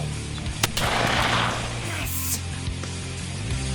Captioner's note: rifle banging; upbeat music